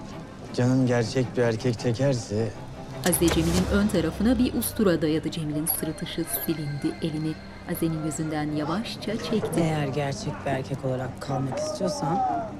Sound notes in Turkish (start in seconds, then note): 2.7 Bıçak çekme sesi; 4.8 Müzik - Gerilim